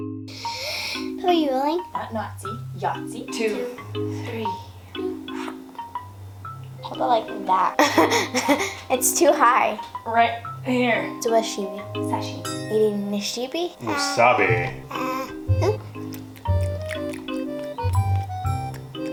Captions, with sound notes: Papa you rolling? 2-3..... Hold it like that... (laughter) it's too high. Right there... suwatshimi...sashimi. Eating Nishibi? WASABI!